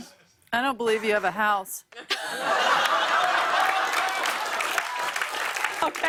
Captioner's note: laughter and applause